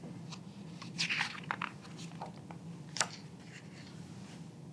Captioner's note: pages rustling